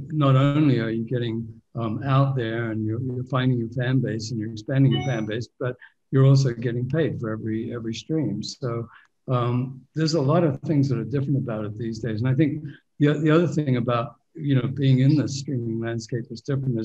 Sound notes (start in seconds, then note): none